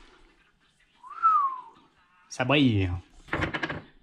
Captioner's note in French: sifflement